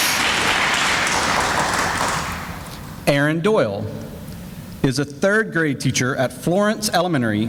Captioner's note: sounds of applause